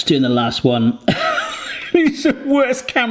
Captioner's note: laughs